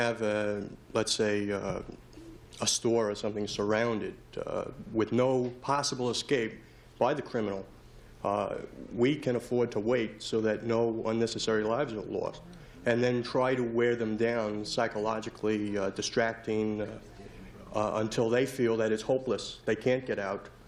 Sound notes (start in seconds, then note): none